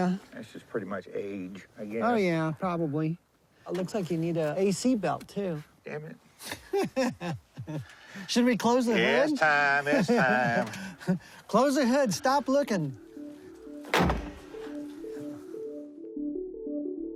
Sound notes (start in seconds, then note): 6.9 laughs; 12.5 gentle music